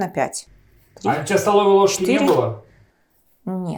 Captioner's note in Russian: закадровый голос